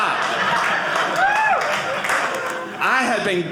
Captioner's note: audience cheering